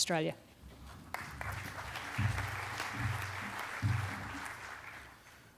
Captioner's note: crowd clapping